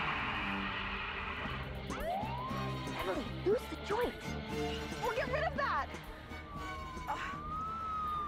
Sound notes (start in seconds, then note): 0.0 tires screeching; 1.6 siren blaring